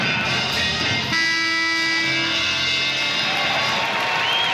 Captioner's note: loud buzzer